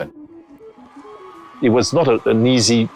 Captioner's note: crowd cheering